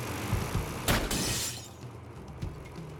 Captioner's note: gunshot, glass shatters